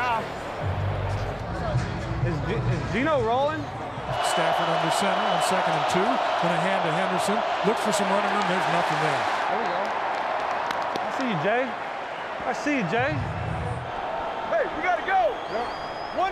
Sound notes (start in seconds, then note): 3.9 crowd cheering; 8.8 players clapping; 12.3 crowd cheering